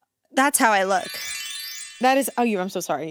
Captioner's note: graphic twinkling